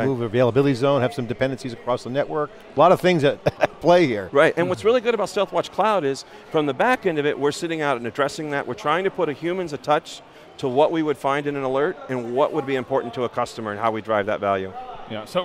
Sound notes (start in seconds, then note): 3.4 laughs